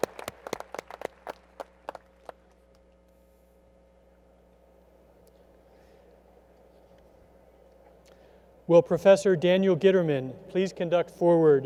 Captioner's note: applause